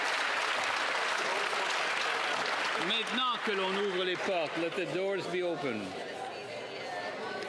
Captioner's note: cheers & Applause